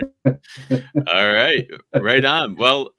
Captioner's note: chuckling